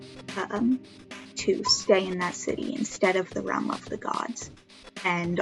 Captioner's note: phone notif